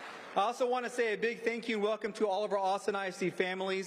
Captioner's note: applause